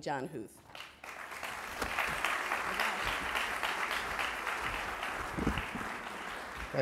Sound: applause

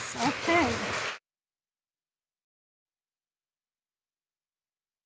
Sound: audience applauding

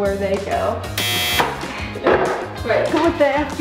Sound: buzzer

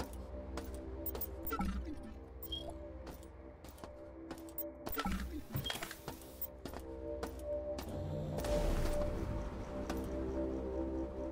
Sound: footsteps

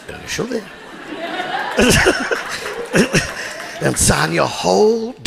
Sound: audience laughing

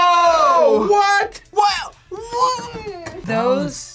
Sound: groans

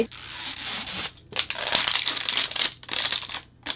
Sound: loud unwrapping noises

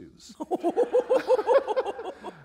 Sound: laughter

